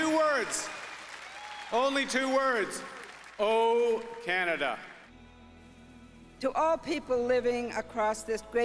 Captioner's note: cheering